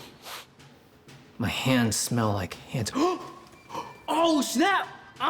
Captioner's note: gasp